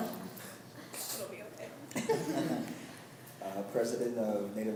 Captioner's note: students laugh